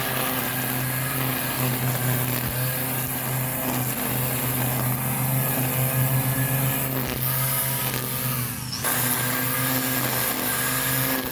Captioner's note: string Trimmer Noise